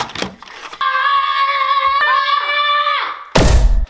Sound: screaming

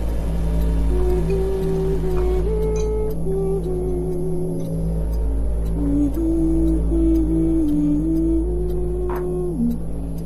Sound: woman hums

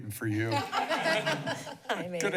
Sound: laughter

